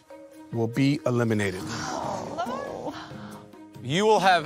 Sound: murmuring; sighing

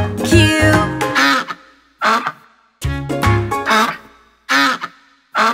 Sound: duck quacks repeatedly

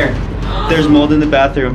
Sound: gasps

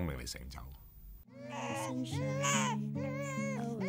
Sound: baby crying

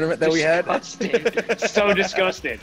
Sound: laugh

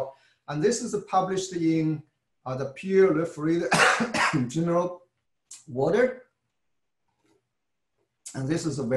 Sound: cough

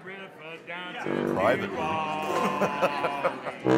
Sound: laughing

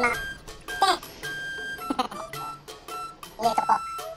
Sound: laughter

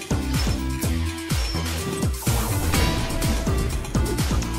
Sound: iron nuggets being compressed into an iron ore

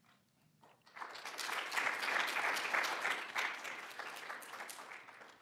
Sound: applause

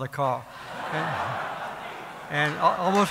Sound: laughter

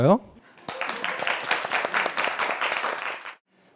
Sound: applause

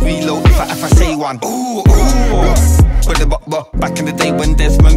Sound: ooh, ooh

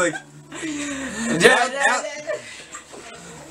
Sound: hums

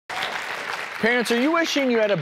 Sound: audience applause

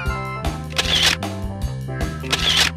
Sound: camera shuttering; cameral shuttering

